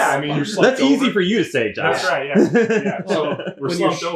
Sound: laughs

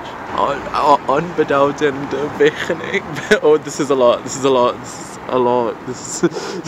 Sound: foreign Language

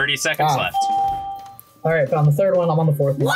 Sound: bell rings

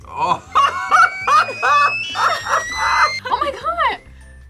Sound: laughs; steam whistles

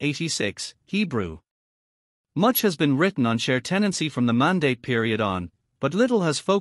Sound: Hebrew

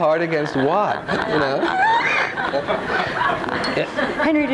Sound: all laughing

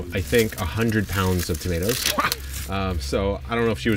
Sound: laughs

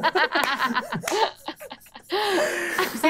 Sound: players laughing

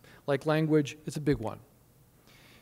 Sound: none

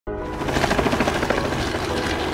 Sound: helicopter chuffing

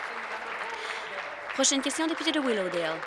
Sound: applause

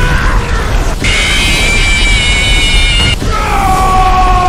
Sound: fnaf jumpscare

